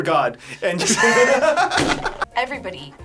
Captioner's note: all laughing